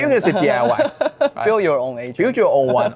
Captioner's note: laughing